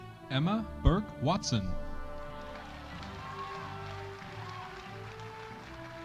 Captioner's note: audience cheering